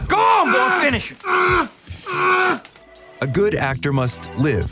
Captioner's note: groaning